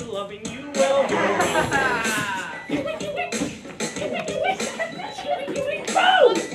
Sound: poor beatboxing and woots

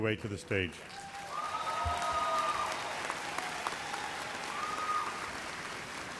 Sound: audience cheers and applauds

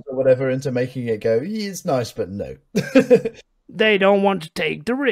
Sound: laughs

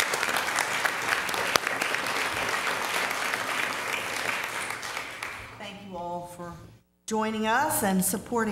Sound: applause

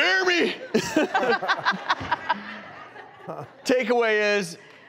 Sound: laughing

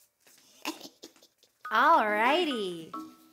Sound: chuckling

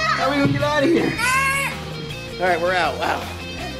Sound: kid yelling

